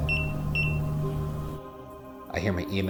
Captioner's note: EMF beeping